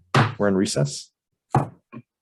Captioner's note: gavel bangs